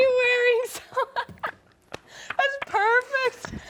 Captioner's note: laughs